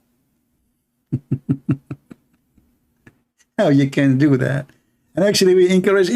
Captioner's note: Ketawa